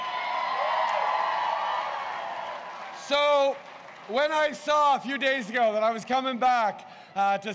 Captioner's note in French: Acclamations